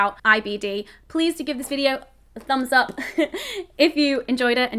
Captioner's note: chuckles